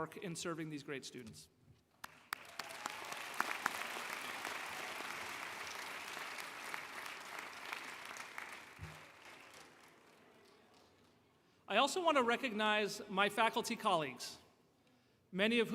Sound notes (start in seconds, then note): 6.2 applause